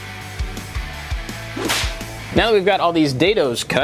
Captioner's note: whip cracking